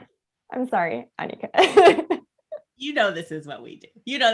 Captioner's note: laughs